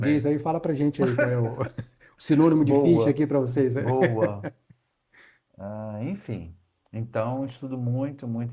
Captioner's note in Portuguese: risadas